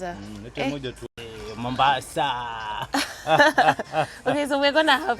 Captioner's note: both laughing